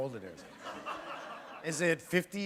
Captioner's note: laughter